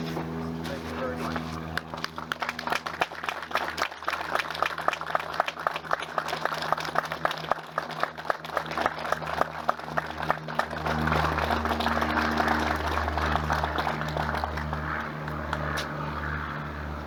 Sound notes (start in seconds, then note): 1.7 applause